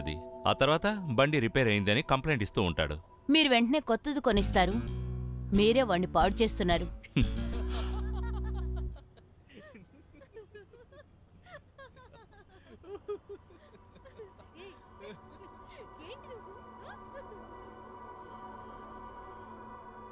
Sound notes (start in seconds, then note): 6.9 chuckles; 7.1 Tarini giggling